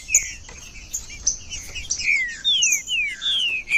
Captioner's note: trinca ferro cantando